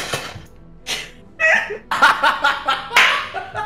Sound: laugh

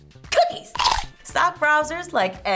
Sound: cookie crunches

